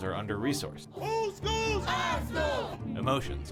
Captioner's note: crowd chants